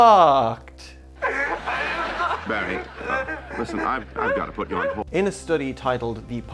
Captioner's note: canned laughter; woman crying